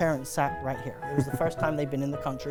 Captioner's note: laughing